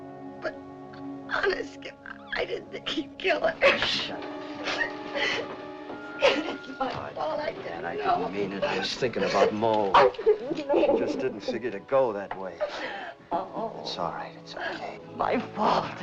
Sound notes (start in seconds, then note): 6.0 crying; 8.0 sobbing